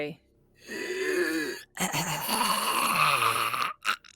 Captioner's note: Pivam gurgling